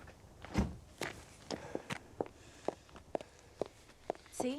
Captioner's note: door slams